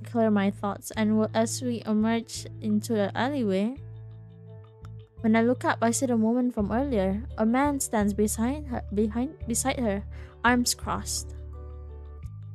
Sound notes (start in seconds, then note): none